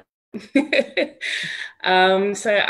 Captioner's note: laughs